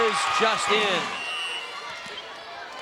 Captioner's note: whistle trilling